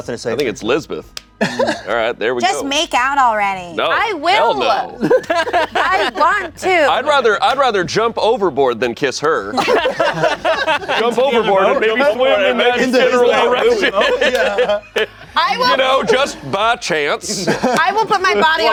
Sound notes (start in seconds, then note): 5.0 laughing; 9.6 everyone laughing